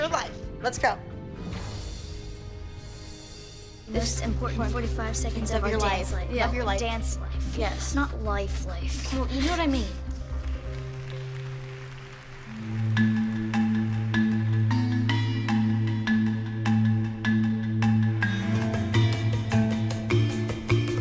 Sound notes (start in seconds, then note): 9.6 applause; 14.2 suspenseful music